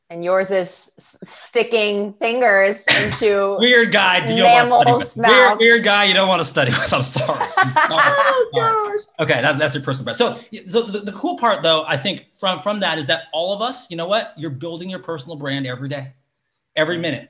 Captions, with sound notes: - And yours is sticking fingers into mammals mouths. - Weird guy you don't wanna study with, I'm sorry. (all laugh) - Oh, gosh. - Okay, that's your personal best. So the cool part though, I think, from that is that all of us, you know what? You're building your personal brand every day, every minute.